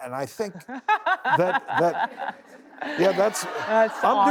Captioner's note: laughing